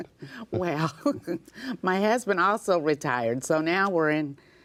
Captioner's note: laughing